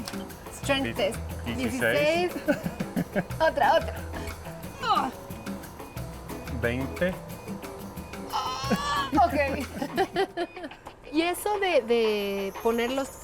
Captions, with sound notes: Strength test. [Both speaking Spanish] Ahh! [Speaking Spanish] Ahh! OK. [Laughs] [Speaking Spanish]